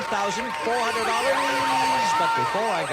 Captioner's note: buzzer sounds